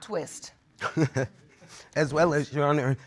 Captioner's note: laughs